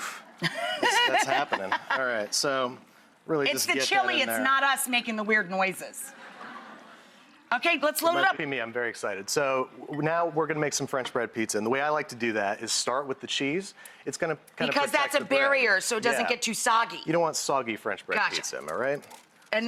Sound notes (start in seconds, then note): 0.4 laughs; 6.2 audience laughter